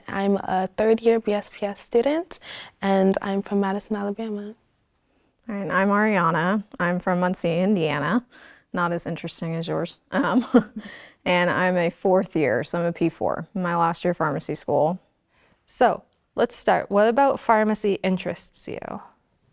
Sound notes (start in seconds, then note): 10.1 chuckling